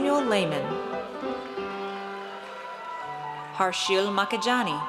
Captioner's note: audience cheers